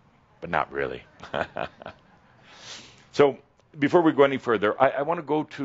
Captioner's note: Adamus chuckles